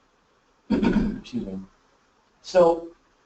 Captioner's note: clears throat